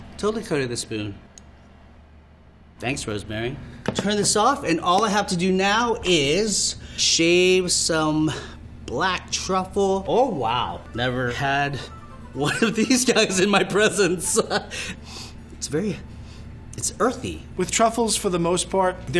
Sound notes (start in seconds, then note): 13.1 laughs; 15.0 sniffing